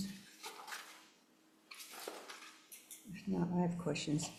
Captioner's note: paper rustling